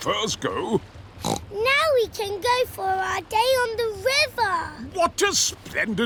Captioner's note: snorts